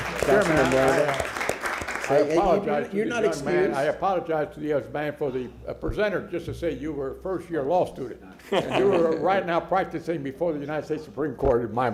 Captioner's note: applause